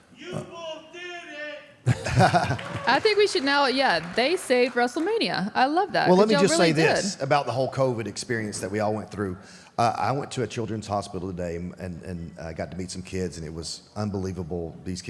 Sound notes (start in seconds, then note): 1.8 AJ laughs